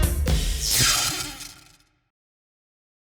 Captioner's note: zap